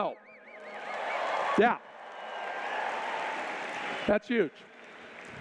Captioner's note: cheers